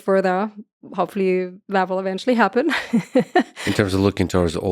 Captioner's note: laughs